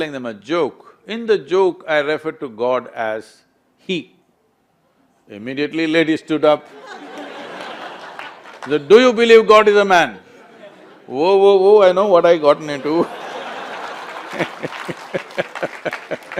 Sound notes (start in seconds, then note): 6.6 laughter; 12.7 laughter/Applause